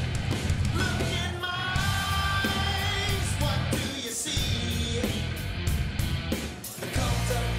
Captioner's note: cheering